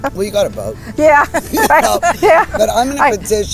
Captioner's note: laughing